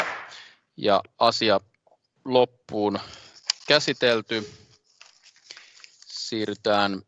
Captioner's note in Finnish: nuijan kopautus